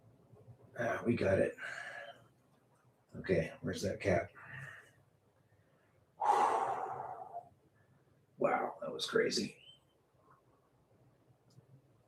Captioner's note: sighs